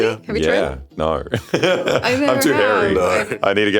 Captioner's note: laughs